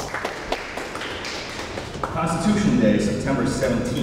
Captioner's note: audience applauds